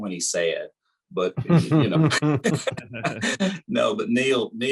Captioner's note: laughter